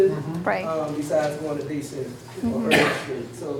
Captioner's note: cough drowns out speaker